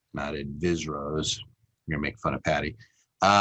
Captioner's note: speaks in foreign language